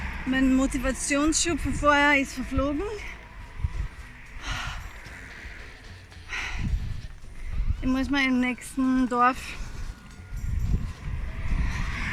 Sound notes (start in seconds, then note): 4.4 sigh